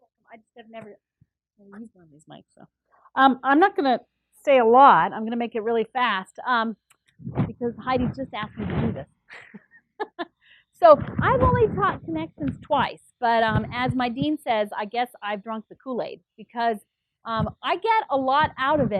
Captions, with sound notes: >> I just have never used one of these mics. I'm not gonna say a lot. I'm gonna make it really fast. Because Heidi just asked me to do this. [LAUGH] So, I've only thought connections twice, but as my dean says I guess I've drawn for Kool-Aid because I get a lot out of it.